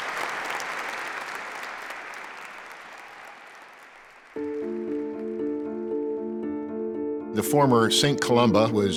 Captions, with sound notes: (audience clapping) (relaxed music) - The former St. Columba